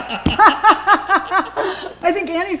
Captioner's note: laughter